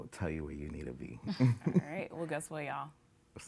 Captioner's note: giggling